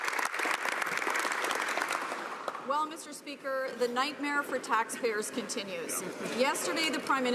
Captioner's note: some Applause